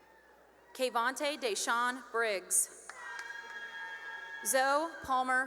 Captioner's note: cheering and applause; cheering and applause